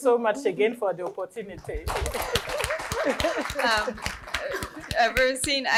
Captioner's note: applause